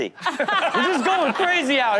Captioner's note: audience laughs